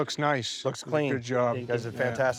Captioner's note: pat